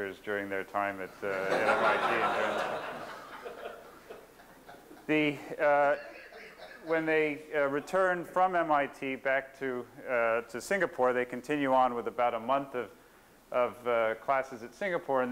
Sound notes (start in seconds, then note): 1.3 laughter